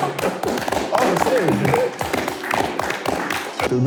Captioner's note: applause